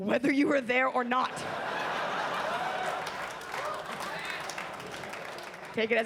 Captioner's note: audience laughs and claps